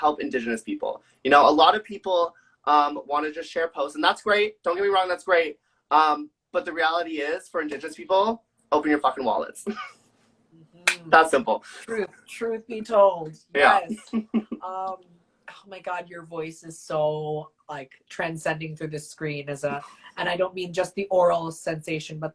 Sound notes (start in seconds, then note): 10.3 laughs; 10.8 claps; 13.8 laughs